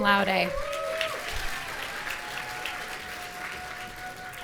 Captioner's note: audience cheering